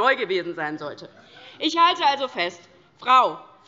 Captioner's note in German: Heiterkeit DIE LINKE